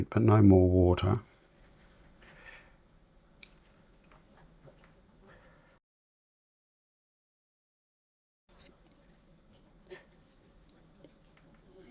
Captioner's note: silence